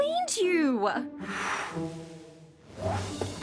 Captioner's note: blows dust